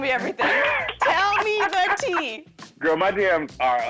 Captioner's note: laughing